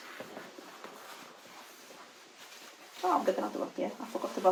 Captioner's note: fabric rustles